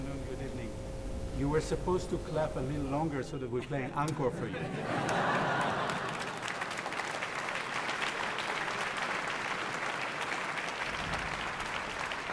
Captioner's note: applause; laughter